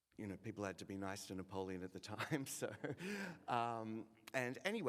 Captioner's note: laughs